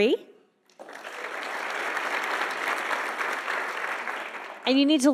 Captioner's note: audience applauding